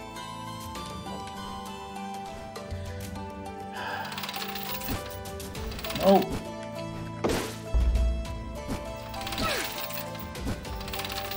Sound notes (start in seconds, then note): 3.7 sighs